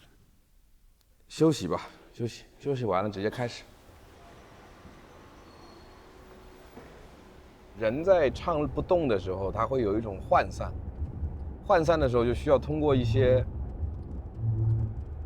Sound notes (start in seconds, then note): 4.2 noise of traffic